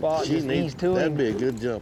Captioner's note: all chattering